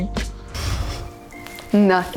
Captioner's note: laughing